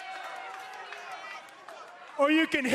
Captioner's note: cheers and boos